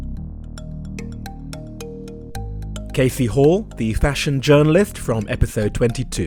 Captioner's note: voiceover